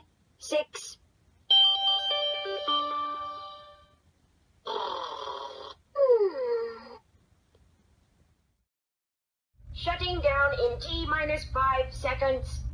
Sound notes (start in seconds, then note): 4.6 snoring